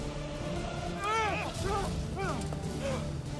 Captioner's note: shouting, fighting